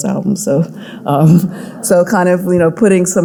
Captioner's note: audience laughing